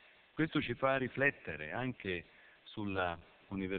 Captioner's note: Italian